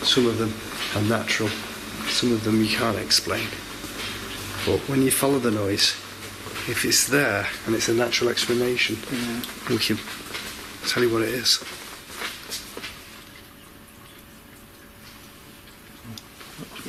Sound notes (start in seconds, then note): 12.0 water dripping